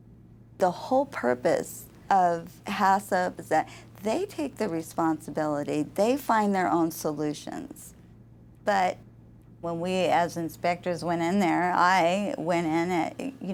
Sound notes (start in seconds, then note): none